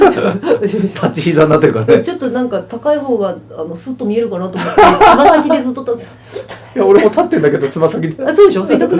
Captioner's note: laughs